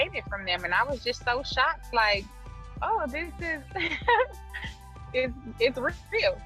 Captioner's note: laughs